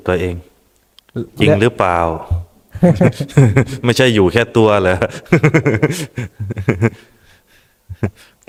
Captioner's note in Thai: เสียงหัวเราะ